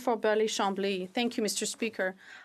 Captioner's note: speaking French